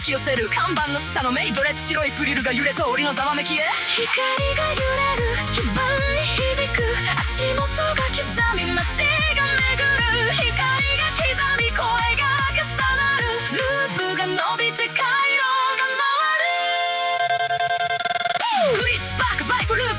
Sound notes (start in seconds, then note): 5.4 light sways, circuits hum